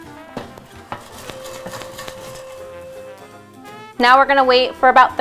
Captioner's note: popcorn kernels rattle